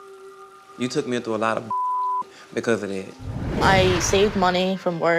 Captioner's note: beeping